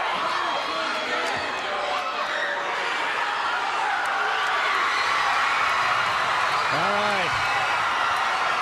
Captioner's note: crowd cheering